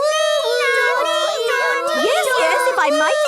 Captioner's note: children imitating sirens